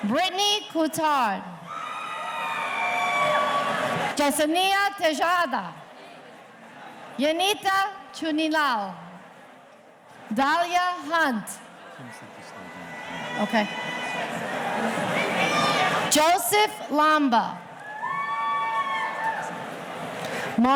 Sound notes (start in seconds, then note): 1.6 audience cheering; 11.9 faculty member murmurs; 17.8 audience cheering